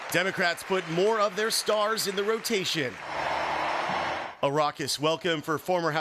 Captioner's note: cheering and applause